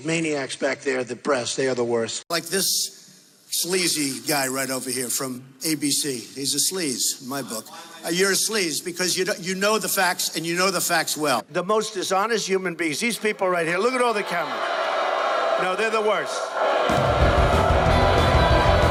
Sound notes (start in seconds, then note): 13.9 booing